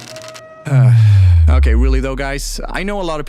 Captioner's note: sigh